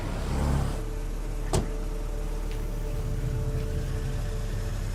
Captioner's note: car door slams